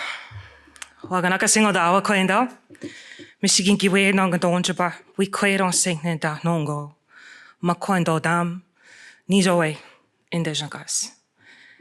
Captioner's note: speaking in Odawa